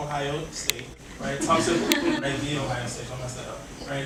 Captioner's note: audience laughing